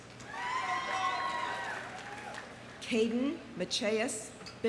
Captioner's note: audience cheering; audience applauding